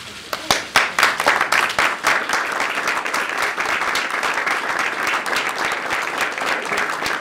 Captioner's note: applause